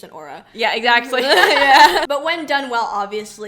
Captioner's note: laughs